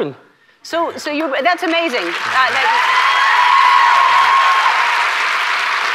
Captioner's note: audience cheers